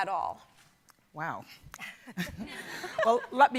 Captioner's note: laughs